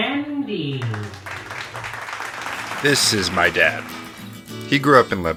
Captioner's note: voiceover; upbeat guitar plays